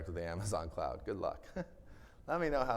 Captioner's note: chuckles